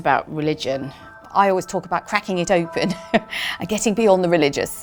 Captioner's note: laughs